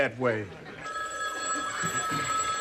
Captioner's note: phone ringing